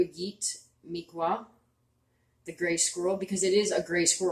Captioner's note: speaking Abenaki Language